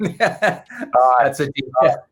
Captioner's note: laughing